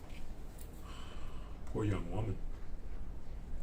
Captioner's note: sighs